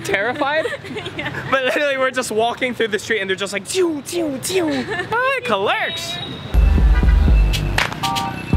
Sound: sound effects

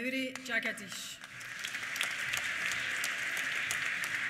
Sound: applause

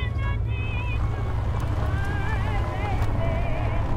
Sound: vehicle drives away, music continues to play on radio

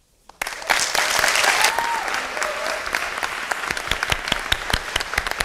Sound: audience applauding

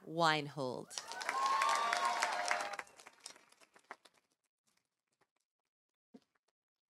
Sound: audience cheering; audience applauding

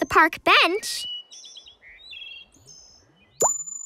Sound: chirping

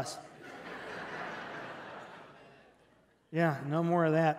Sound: congregation laughing

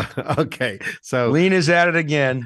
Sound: laughs

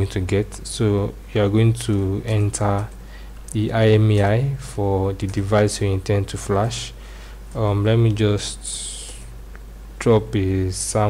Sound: typing

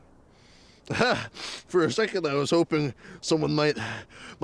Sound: laughs

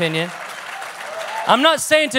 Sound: congregation claps

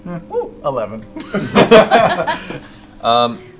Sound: laughter

